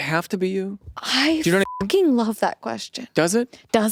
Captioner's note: beep